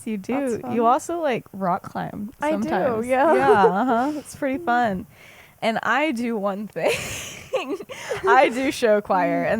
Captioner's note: laughs